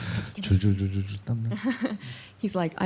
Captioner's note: speaking korean